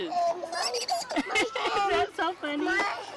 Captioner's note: children laughing